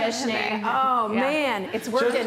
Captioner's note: laughing